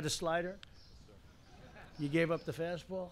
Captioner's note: laughter